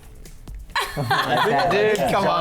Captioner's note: laughs